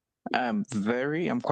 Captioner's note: speaking French